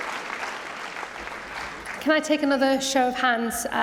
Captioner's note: applause